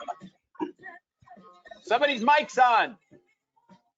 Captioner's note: audio distorting